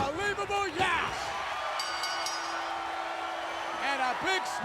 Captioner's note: bell dinging